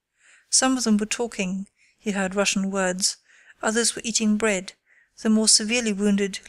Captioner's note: he heard Russian words